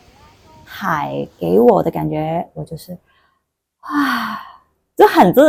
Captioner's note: sigh